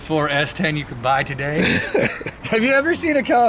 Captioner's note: laughter